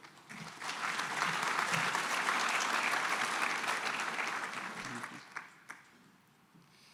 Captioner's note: applause